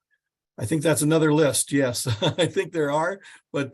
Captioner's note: chuckles